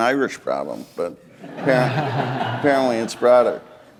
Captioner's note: laughter